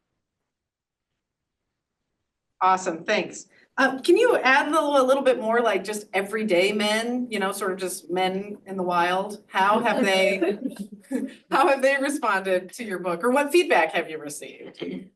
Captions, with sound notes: - Awesome. Thanks. Can you add a little bit more, like just everyday men, you know, sort of just men in the wild, (audience laughs) (laughs) how have they responded to your book or what feedback have you received?